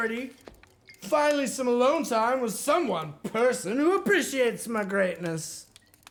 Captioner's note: slurring